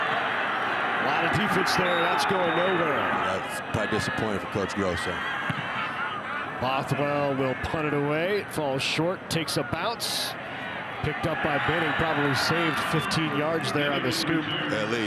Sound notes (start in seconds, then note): 1.8 referee blows whistle; 10.5 fans cheer